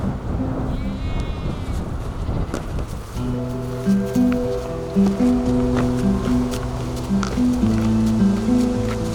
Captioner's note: sound of sheep baa-ing